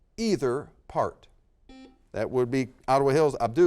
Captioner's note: buzzer sounds